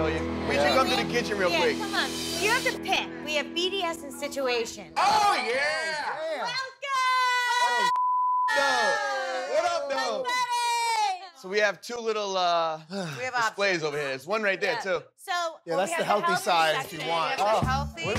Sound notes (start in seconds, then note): 8.5 girls cheering